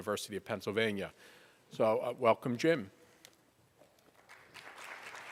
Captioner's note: applause